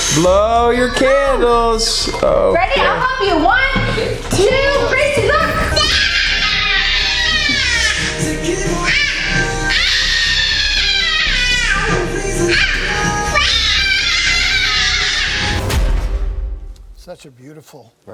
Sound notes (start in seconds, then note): 5.8 yelling; 8.1 music playing in the background; 10.2 yelling